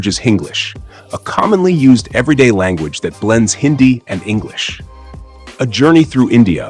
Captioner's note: Hinglish